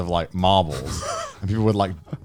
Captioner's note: Garnt laughing